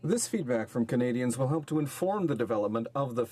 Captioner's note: speaking in french